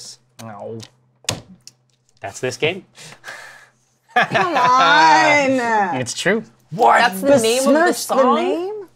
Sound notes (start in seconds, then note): 1.1 bangs table; 4.1 laughs